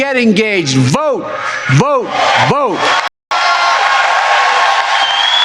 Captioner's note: cheering and applause